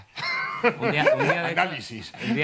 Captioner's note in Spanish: riendo